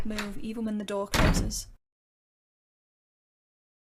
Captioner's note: door loudly shuts